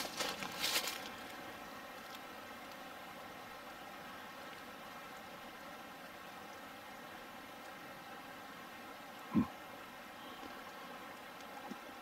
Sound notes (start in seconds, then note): 2.5 burbling water